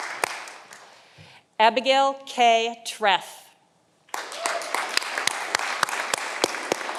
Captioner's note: audience applauding